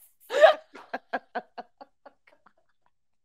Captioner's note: laughing